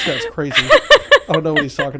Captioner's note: laughing